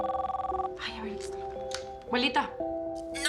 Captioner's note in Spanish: Suena el teléfono